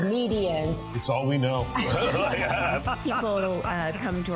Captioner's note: all laughing